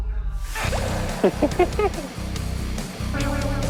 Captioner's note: sudden acceleration